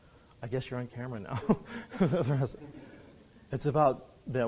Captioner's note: laughs